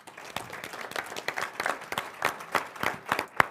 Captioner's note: all applauding